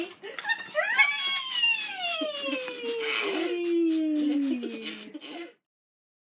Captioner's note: laughter